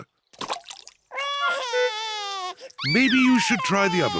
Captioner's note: cries